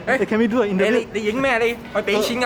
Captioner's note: Cantonese